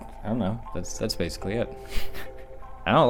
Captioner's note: laughs